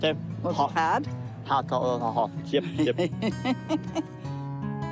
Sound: chuckles

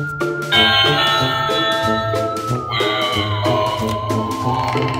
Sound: doorbell rings; doorbell mumbles evilly

